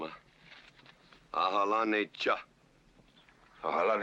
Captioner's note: speaking Comanche